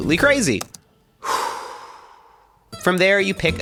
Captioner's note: exhales